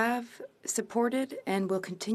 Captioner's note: speaking FRENCH